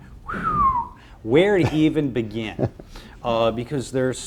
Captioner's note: whistles